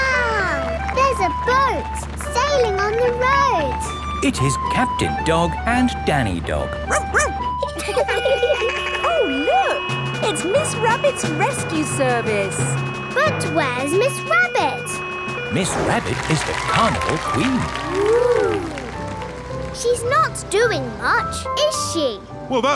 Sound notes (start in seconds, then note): 6.8 barks; 7.6 laughing; 7.9 sirens sounding